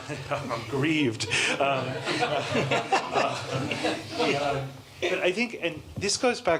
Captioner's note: laughter